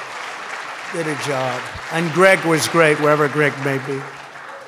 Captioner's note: applause